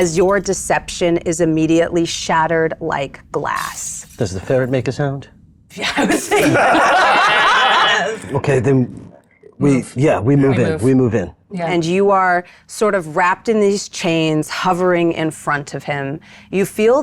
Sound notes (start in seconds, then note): 5.8 participants laughing